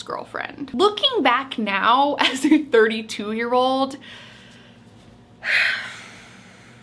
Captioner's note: sighs